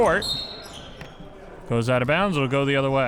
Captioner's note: whistle blows